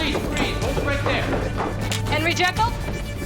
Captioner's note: approaching footsteps